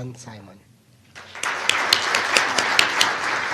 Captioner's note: applause